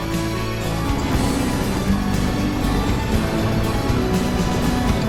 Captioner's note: water roaring